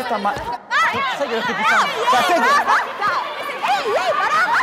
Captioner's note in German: Aufgeregte Rufe